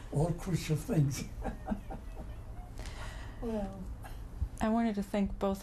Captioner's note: laughs